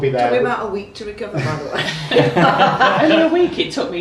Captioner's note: laughing